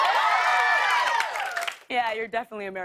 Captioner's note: cheers and applause